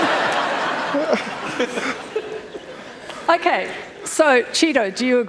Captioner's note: laughter